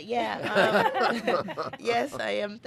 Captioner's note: laughing in unison